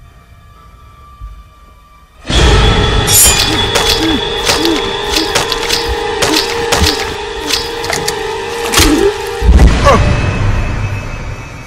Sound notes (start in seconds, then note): 2.4 dramatic music; 3.9 Omari groans